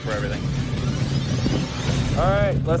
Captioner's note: engine rumbling